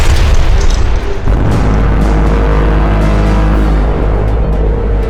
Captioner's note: explosion booms; machine blaring